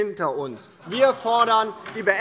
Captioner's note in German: Lachen AfD